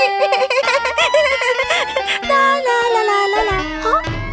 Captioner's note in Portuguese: Risos